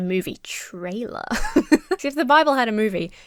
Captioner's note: laughs